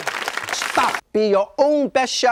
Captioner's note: audience applause